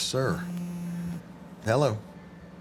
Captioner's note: phone buzzes